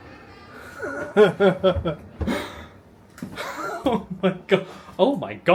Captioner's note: chuckling